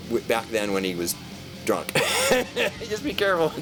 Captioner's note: laughs